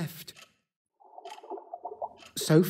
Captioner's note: water swirling